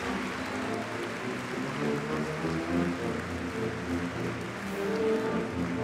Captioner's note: applause